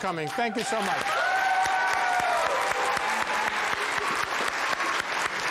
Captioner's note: audience cheers and applauds